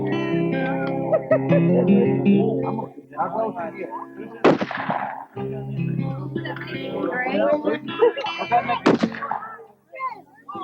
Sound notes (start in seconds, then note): 2.5 gun shots